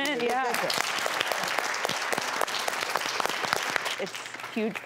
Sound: audience applauds

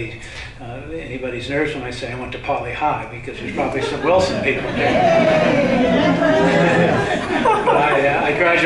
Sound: crowd cheers

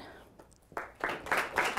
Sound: applause

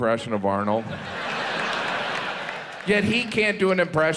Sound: audience laughs

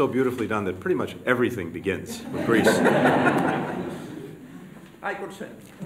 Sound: laughter

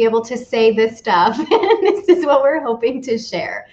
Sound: laughs

